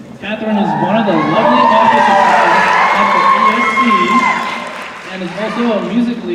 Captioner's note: cheering